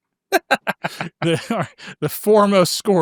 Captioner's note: laughing